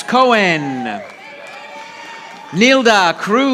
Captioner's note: audience applauding